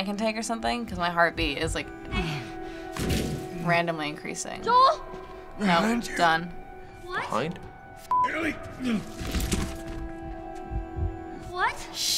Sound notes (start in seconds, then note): 8.7 Joel groans